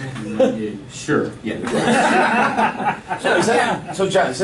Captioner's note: laughing